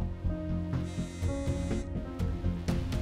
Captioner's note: Phone vibrating